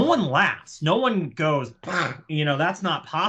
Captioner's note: scoffs